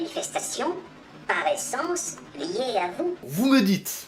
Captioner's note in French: Voix trafiquée